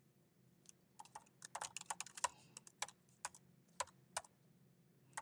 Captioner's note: keyboard clicking